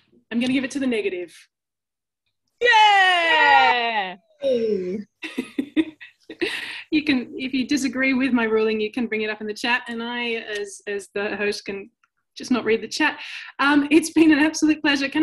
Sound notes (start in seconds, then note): 2.6 group cheering; 4.8 chuckles